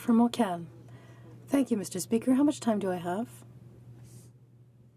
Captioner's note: speaking in French